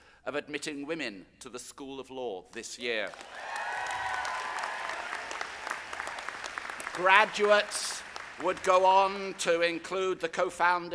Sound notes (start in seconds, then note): 3.1 audience applauding; 3.1 audience cheering